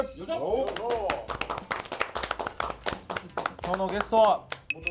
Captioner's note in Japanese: 拍手